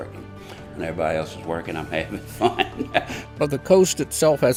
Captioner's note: laughs